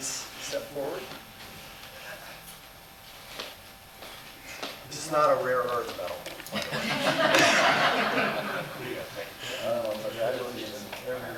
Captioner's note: laughter